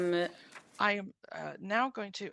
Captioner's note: speaking French